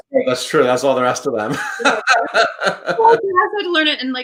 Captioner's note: laughs